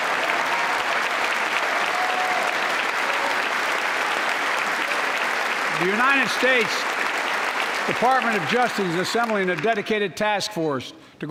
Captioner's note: applause